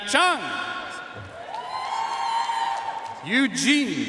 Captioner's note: audience cheering and applauding